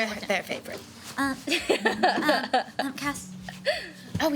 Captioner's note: laughing